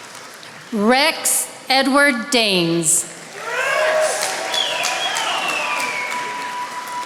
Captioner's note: attendees applauding